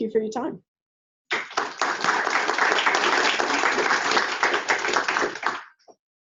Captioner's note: applause